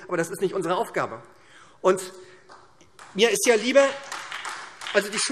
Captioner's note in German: Beifall SPD und Freie Demokraten